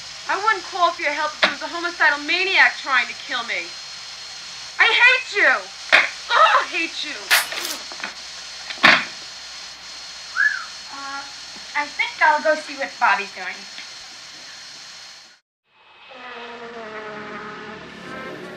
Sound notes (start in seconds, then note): 7.3 wire tear; 10.3 whistles; 16.2 door creak